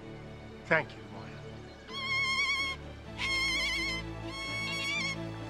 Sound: bird screeching

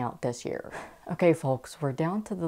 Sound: exhales

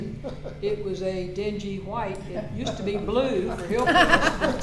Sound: laughter

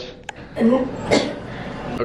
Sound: coughing

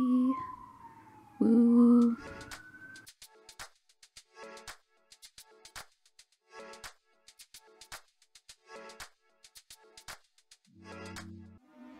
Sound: ambulance noises

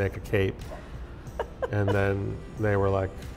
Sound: laughs

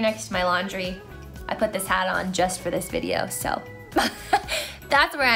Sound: laughs

